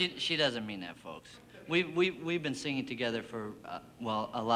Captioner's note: stammers